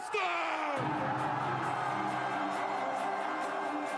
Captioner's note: cheers and music